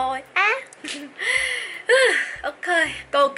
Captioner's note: sigh